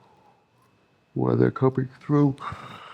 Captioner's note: non-english speech